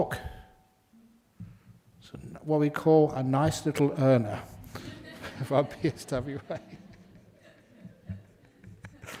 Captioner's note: laugh